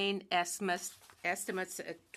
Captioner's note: speaking French